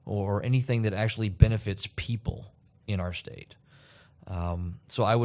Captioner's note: none